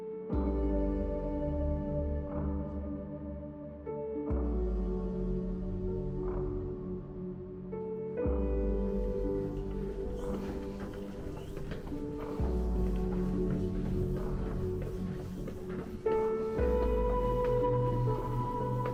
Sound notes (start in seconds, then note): 10.4 footsteps